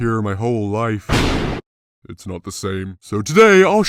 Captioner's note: lightning